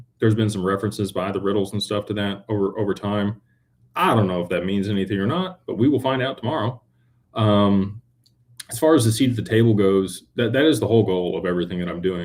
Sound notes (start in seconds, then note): none